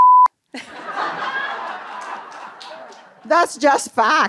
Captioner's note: laughter